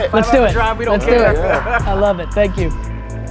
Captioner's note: laughing